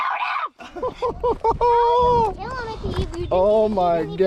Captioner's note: laughs